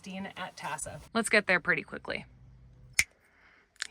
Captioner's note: snaps fingers